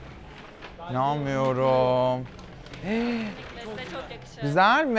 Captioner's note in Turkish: iç geçirir